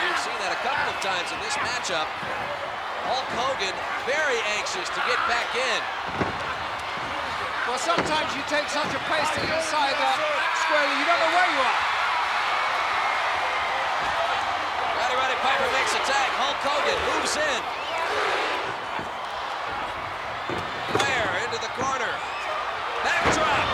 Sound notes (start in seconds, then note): 5.6 Piper grunting; 5.6 body thudding; 17.3 crowd cheering; 18.1 blows thudding; 18.1 footsteps plodding; 23.5 body thudding; 23.5 crowd cheering